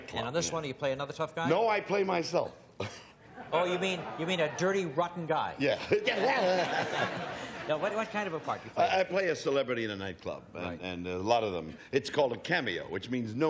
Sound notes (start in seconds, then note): 3.3 chuckles; 5.7 laughter